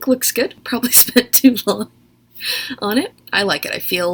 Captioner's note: laughs